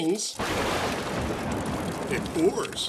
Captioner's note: thunder